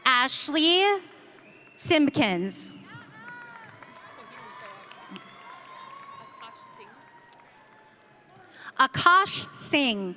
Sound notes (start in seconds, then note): 2.8 audience cheering